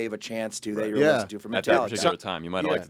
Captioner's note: group chattering